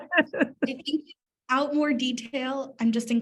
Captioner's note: laughing